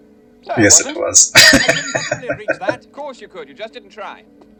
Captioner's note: laughing